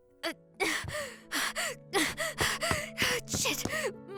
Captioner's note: panting